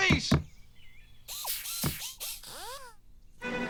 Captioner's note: whirring